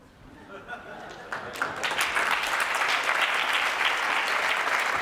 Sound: applause

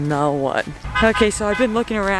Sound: car horns honking

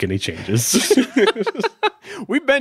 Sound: laughing

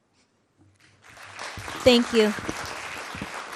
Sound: audience clapping

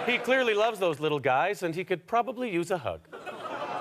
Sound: audience laughter

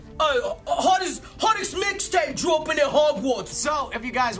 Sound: "English" accent

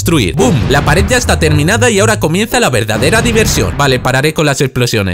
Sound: boom

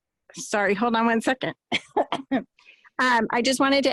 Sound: coughing

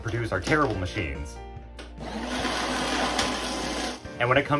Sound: shredding noises

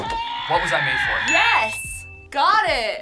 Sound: buzzer shouts

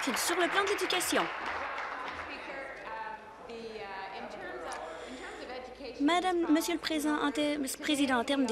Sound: applause

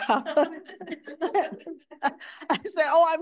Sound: audience laughing

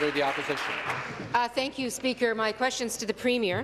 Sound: applause

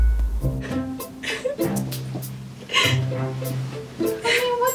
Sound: cries

